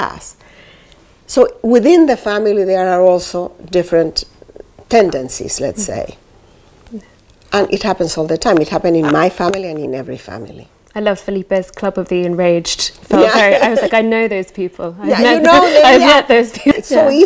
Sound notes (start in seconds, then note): 13.2 laughs; 16.6 laughter